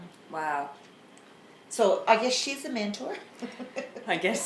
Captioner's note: laughs